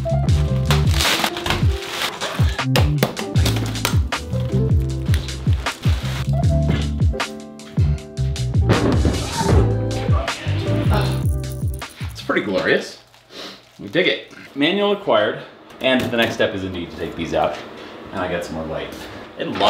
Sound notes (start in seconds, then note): 0.1 ambient music continues; 0.1 plastic clacks; 8.6 computer thuds